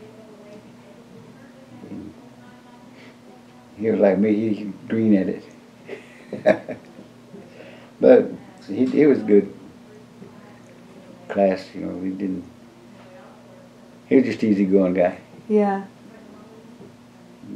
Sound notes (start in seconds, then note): 5.9 laughs